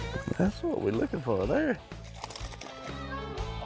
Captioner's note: water splashing; upbeat country rock music